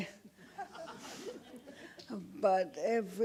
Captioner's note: audience laughs